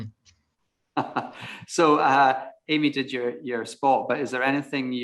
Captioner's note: laughs